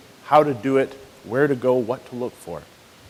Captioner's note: none